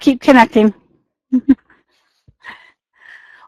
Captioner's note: laughing